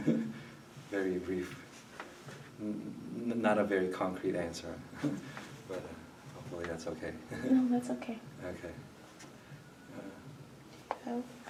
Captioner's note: chuckles